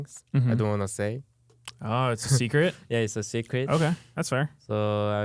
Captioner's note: laughs